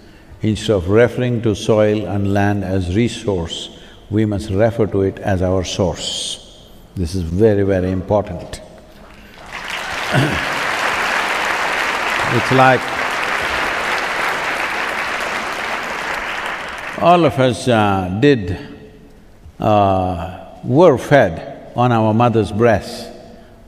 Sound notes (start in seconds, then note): 12.6 applause